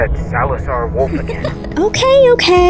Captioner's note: chuckles